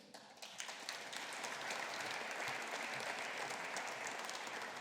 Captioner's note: audience applauding